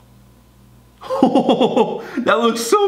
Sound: laughing

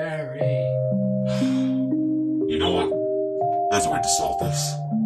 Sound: sighs

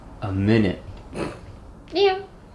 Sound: emma snickers

